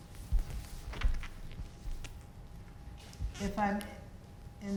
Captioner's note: floor squeaking